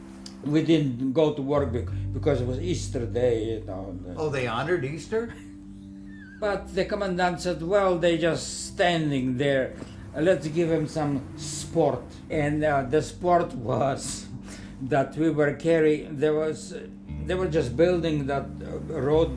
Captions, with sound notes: We didn't go to work because it was Easter day, you know. Oh, they honored Easter? (Laughing) But the commandante said, why are they just standing there? Let’s give them some sport. And the sport was that we would carry- there was, they were just building the road